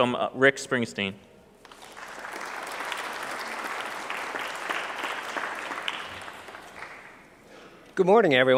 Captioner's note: clapping